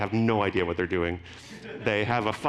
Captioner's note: audience laughing